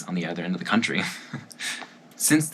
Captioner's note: breathy laugh